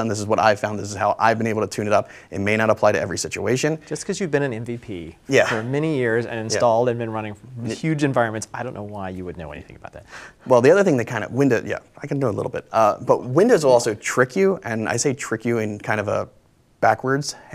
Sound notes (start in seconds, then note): 5.3 laughs